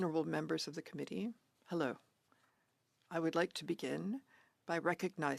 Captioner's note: speaking French